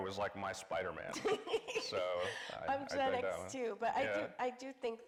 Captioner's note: laughs